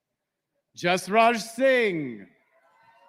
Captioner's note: applause